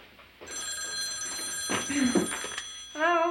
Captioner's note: phone ringing